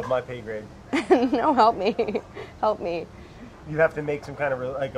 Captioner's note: laughing